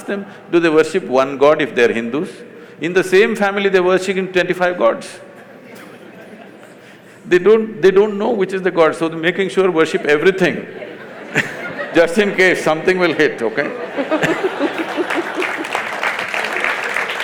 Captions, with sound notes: You ask them do they worship one god if they are Hindus. In the same family, they’re worshipping twenty-five gods (Laughter). They don’t… They don’t know which is the god, so they’re making sure worship everything (Laughter). Just in case something will hit, okay (Laughter/Applause).